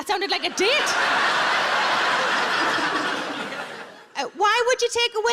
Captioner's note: audience laughs